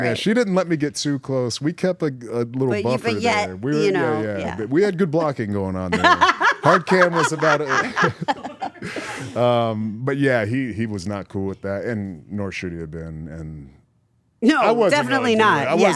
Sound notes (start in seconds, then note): 5.9 laugh